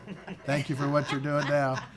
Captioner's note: people laughing